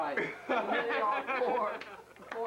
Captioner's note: laughter